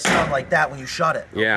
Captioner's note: door slamming